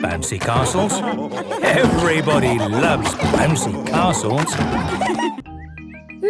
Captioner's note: laughter